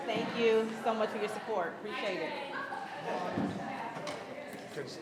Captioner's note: attendees chattering continues